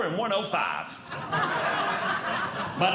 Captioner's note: audience Laughing